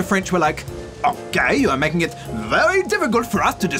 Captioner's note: french accent